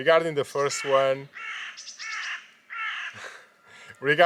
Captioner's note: crow cawing